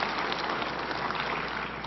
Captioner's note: applause